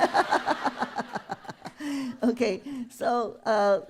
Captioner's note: laughter